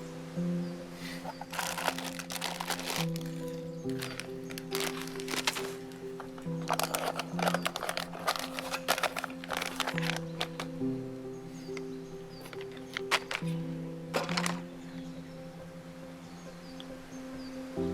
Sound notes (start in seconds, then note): 1.0 wrapper crinkling